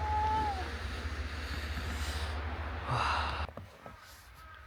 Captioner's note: very visibly cold breathing